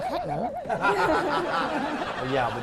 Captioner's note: laughing